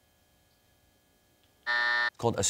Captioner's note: buzzer sounds